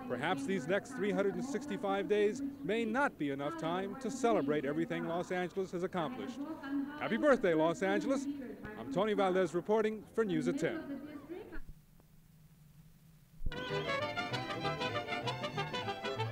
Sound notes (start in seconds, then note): 12.0 no audio; 13.5 mariachi music